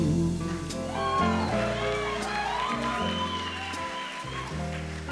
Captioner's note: applause